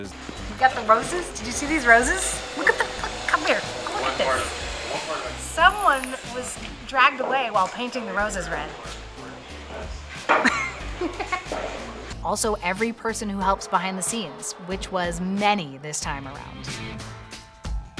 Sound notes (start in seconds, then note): 10.4 laughter